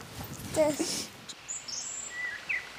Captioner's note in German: Vogelgezwitscher